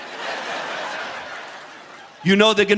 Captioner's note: audience laughing